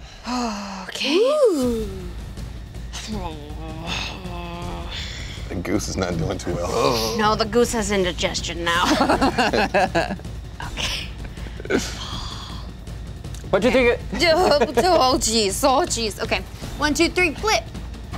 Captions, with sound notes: - The goose is not going too well. - No, the goose has indigestion now. (laughing) - Oh geez, oh geez, one, two, three, flip.